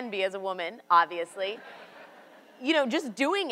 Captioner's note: audience laughs